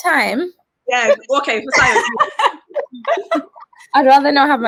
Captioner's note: everyone laughs